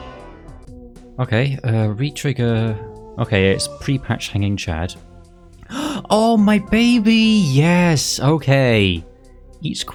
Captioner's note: gasp